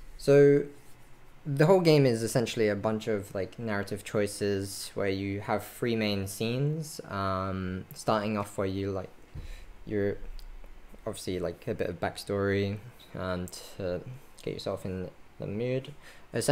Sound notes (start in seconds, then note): none